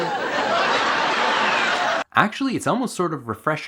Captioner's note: audience laughing